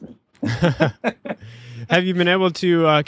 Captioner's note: laughter